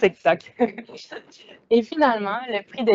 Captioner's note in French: rires